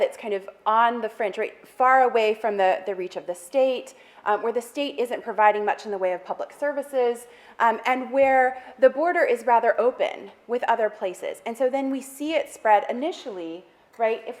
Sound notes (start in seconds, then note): none